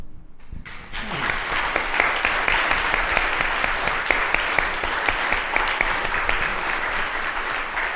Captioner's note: applause